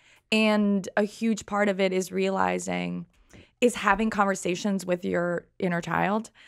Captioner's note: none